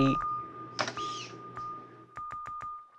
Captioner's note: sculpture whirs